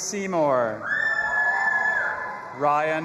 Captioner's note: audience applauding and cheering